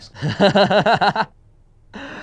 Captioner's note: laughs